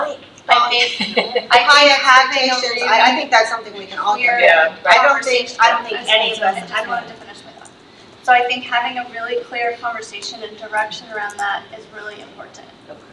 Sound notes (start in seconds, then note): 0.7 laughs; 4.0 faintly speaking